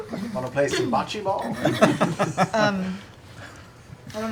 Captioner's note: laughter